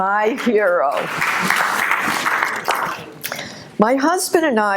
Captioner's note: audience applauding